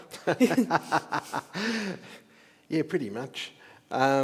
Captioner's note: laughs